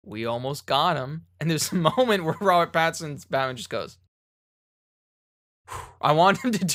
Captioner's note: sigh of relief